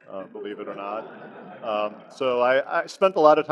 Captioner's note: audience laughs